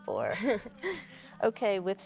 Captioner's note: Claire chuckles